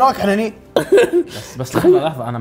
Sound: laughter

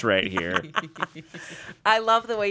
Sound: everyone laughs

